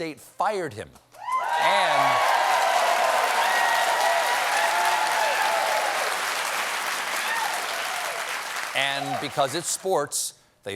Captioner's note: cheers and applause